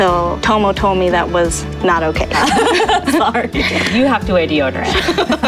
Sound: laughing

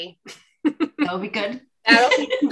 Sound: laughs

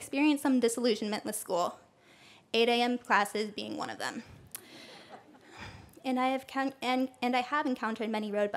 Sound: laughter

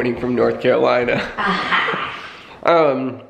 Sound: both chuckling

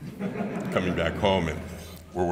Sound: audience laughing

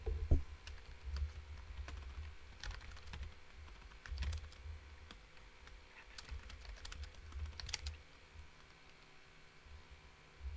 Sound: keyboard typing

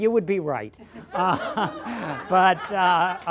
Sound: laughter

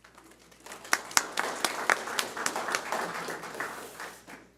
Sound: audience applauding

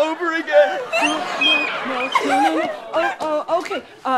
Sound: sobbing

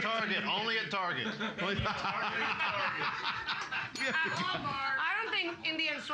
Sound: loudly laughing; bell softly chimes

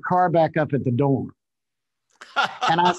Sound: laughs

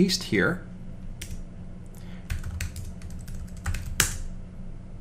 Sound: keyboard clicking

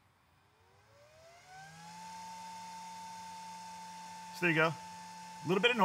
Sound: machine noise

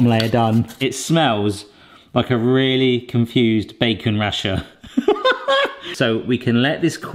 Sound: laughs

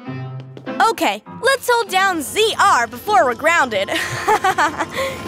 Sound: giggles

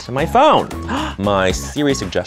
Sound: gasp

